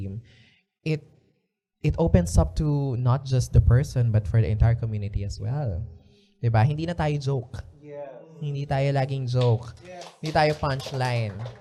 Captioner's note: applause